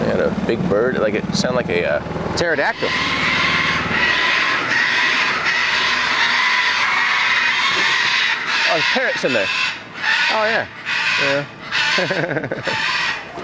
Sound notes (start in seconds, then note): 4.2 bird screeching; 11.9 chuckling